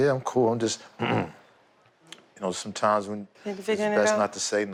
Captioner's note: clears throat